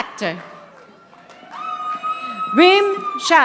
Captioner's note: audience applauding